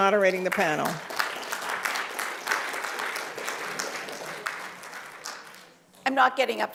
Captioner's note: applause